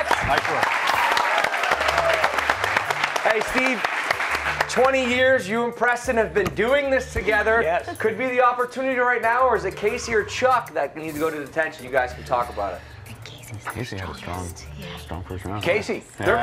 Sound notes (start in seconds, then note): 0.0 applause